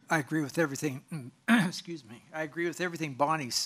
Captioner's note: clears throat